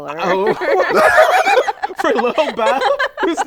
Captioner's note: laughter